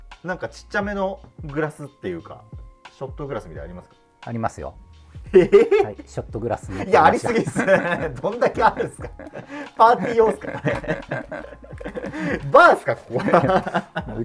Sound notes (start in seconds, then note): 10.7 laughing